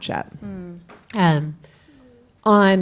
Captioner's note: coughs